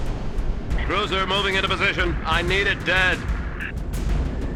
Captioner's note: radio